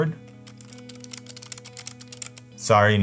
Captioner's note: clicks keyboard